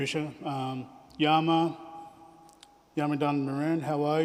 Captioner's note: speaks in aboriginal language